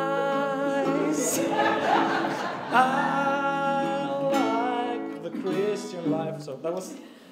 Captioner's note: laughter